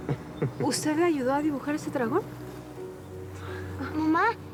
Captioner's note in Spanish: risas